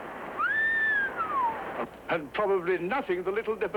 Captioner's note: whistles